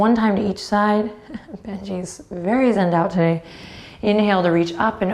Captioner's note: chuckles